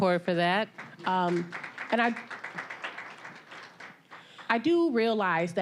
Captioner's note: applause